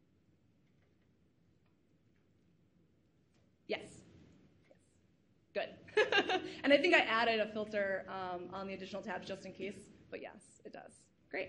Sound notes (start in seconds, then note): 5.9 laughs